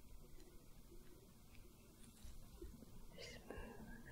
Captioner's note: soft brushing